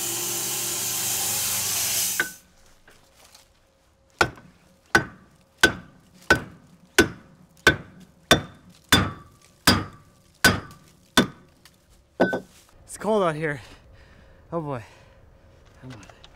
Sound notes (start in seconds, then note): 1.6 machine sawing; 5.6 hammer tapping